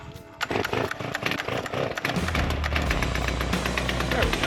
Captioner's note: saw sputtering